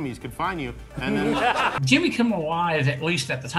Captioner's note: audience laughter